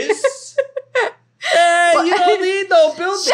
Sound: laughing

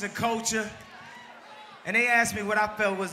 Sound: crowd cheers

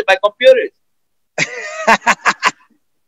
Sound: laughter

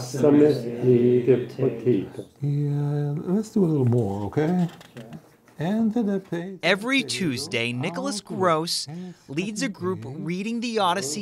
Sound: foreign language

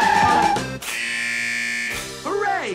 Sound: alarm buzzes

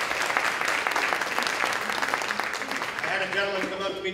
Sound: applause

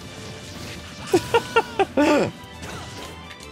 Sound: laughs

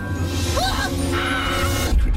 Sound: yells, whimpers; screaming

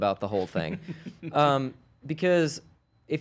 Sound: laughs

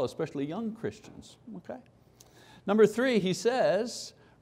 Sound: none

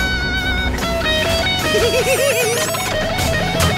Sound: laughing

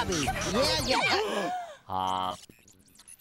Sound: both gasp

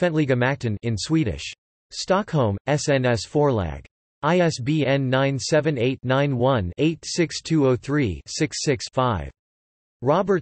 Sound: in Swedish

